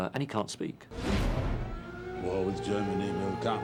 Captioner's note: air raid sirens blare